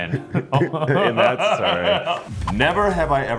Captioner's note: Luke laughs; Billy laughs